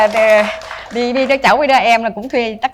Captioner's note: applause